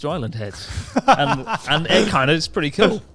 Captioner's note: laughing loudly